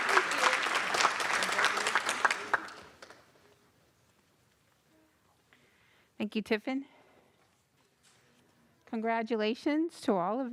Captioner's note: applause